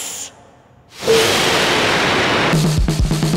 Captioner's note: rushing wind; upbeat music